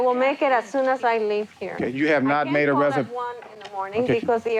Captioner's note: speaking Spanish